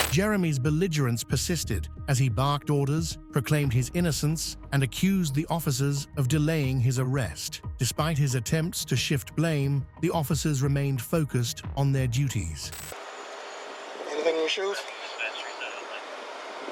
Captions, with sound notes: Jeremy's belligerence persisted as he barked orders, proclaimed his innocence, and accused the officers of delaying his arrest Despite his attempts to shift blame, the officers remained focused on their duties Anything in your shoes? (Radio chatter)